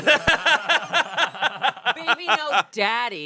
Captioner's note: everyone laughing